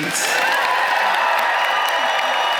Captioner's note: applause